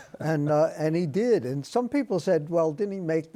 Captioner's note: chuckles